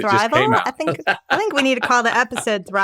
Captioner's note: Matthew laughing